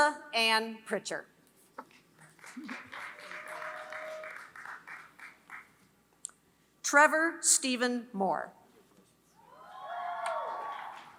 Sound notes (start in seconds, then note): 0.0 applause; 10.3 applause